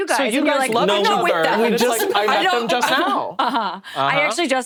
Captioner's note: overlapping chatter